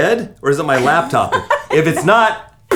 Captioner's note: laughs